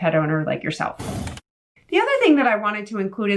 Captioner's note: air whooshing